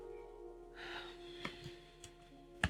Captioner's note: sigh